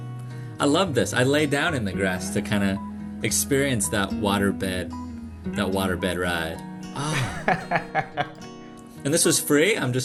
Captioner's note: laughter